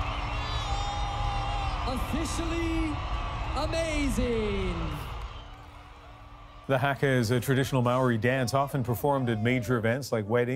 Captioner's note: cheers and Applause